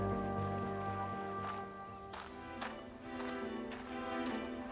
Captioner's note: steps on crushed stone